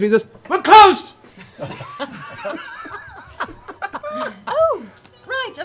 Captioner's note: laughter